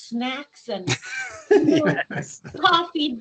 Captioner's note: laughing